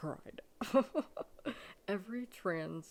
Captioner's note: laughing